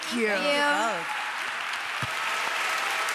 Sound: applause

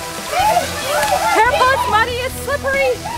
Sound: family squealing

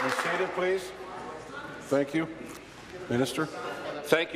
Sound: applause

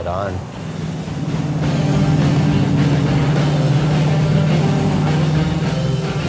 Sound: motor roars, rock and roll plays

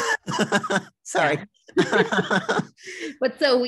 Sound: laughs

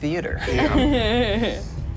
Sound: laughs

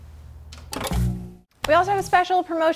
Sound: television clanking

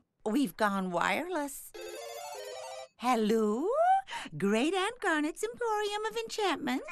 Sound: ringing

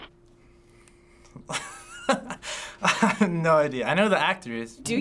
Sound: laughing

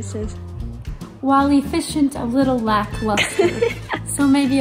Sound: laughs

